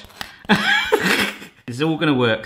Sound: laughs

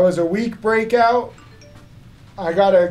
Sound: phone beeping

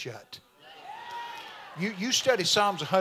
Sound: congregation amens

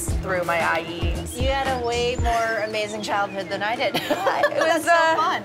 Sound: laughs

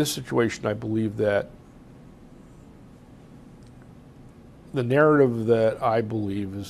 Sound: pauses for 3 seconds

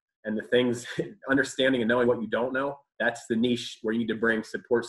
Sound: laughs

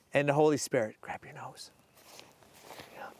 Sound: whispers

